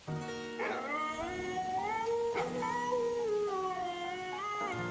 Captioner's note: somber music; dog howling